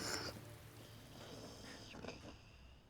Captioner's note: snoring